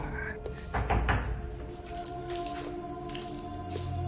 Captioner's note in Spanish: Toques en la puerta